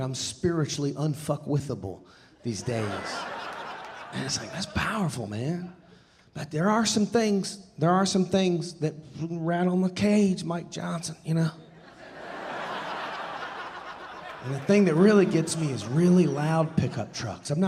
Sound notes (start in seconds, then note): 11.8 audience laughing